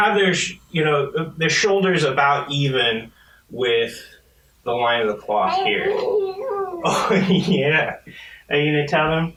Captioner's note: baby laughs and coos